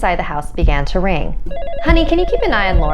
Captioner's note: ringing